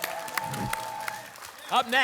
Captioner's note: applause and cheering; whoosh